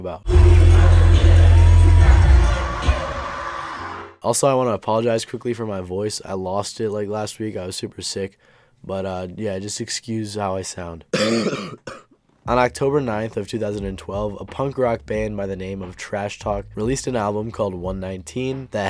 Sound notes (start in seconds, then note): 11.1 coughs